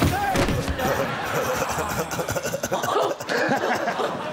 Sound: giggling

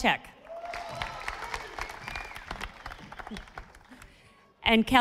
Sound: audience applauding

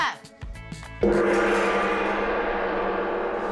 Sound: gong sounds

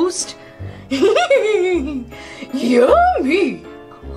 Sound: laughs

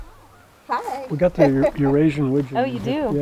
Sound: voiceover; voiceover

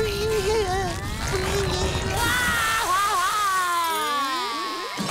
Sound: crying

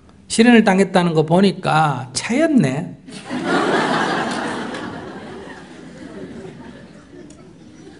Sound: audience Laughter

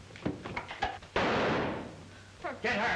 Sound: gunshot

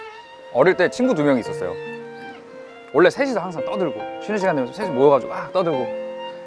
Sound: none

